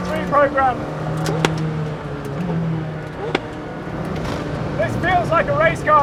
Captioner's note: engine roaring